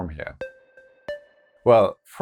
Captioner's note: notes sound